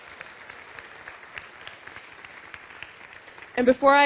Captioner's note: applause